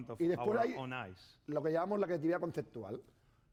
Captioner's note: speaking spanish